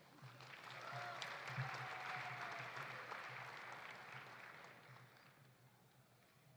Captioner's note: audience applauding; audience cheering